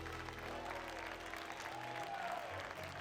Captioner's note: cheers and applause